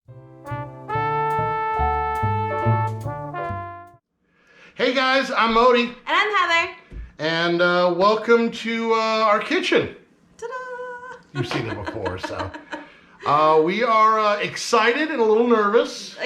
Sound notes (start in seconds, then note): 0.1 smooth jazz; 11.2 laughing